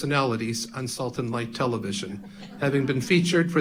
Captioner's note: audience laughing